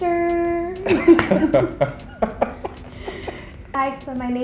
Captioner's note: both laughing